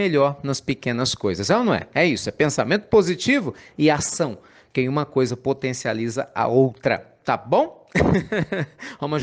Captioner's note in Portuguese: Risos